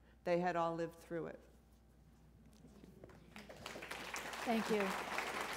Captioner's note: applause